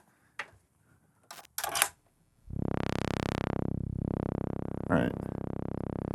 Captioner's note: digital tones